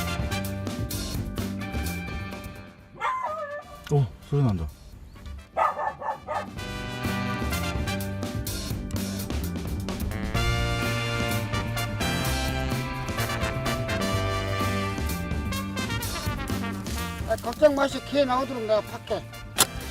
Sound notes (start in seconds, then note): 2.9 barking sound